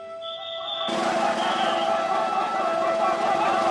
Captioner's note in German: Männer lachen